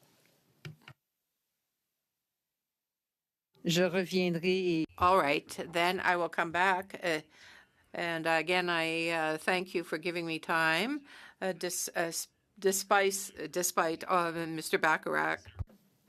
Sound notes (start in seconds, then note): 10.9 speaking French